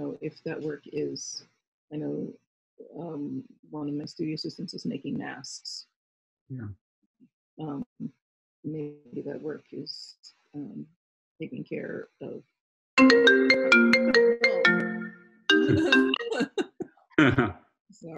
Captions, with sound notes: if that work is I know, one of my studio assistants is making masks. Maybe that work is taking care of-- (phone ringing) (both laughing)